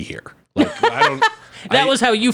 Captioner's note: laughing